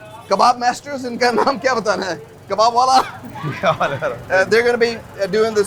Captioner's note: speaks foreign language